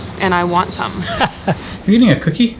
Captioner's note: laughs